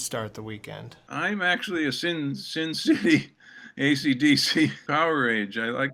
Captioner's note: laughter